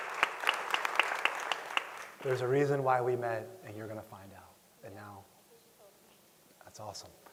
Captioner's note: applause